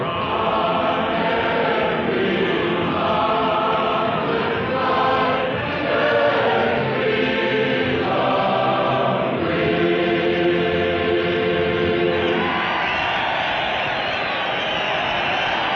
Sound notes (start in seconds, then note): 12.1 cheering